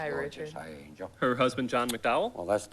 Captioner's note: none